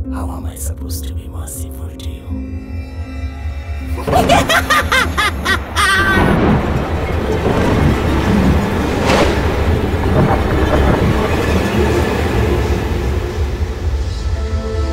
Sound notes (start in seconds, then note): 3.9 laughs Hysterically